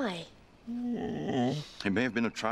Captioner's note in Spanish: Alvar lloriqueando